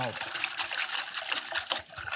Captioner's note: liquid sloshing